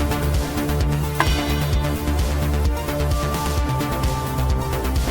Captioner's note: pipe clanking